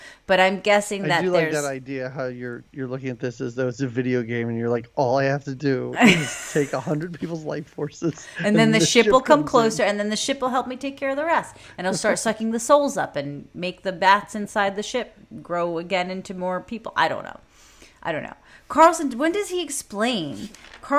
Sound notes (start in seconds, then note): 8.0 laughing